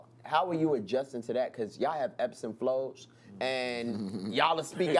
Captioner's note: laughs